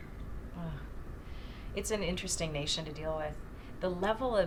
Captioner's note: scoffs